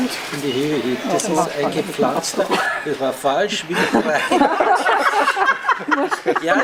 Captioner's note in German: Gelächter